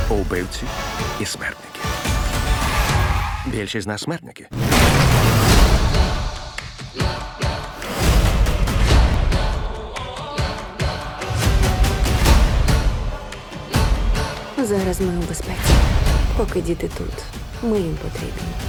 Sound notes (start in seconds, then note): 2.4 tires screech; 4.6 engine revs; 5.4 whimsical a cappella continues